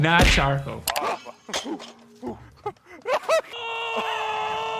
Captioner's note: grunting